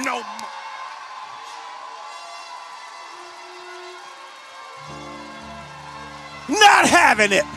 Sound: congregation shouts

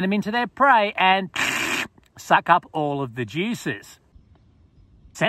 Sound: slurps

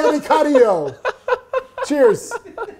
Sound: laughs

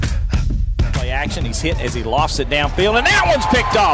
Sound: voiceover

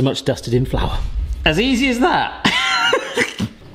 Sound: laughs

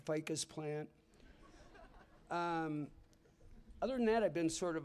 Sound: laughter

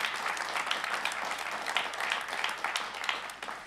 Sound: applause

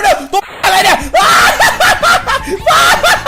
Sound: scream

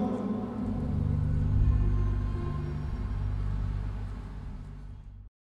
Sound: ambient city noise

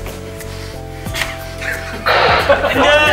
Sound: sniff

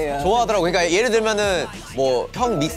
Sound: bop, bop

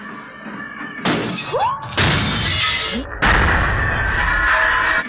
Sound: glass shatters

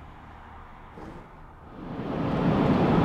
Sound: road noise

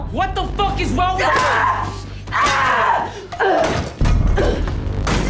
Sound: Cruz screaming

